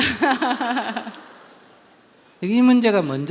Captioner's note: questioner Laughter